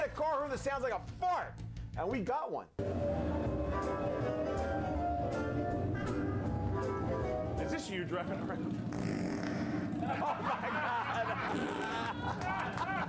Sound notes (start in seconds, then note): 8.7 sound of farting; 11.3 sound of farting